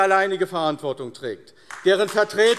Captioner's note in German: Beifall AfD